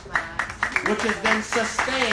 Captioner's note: applauding